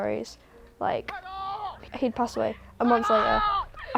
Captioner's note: shouting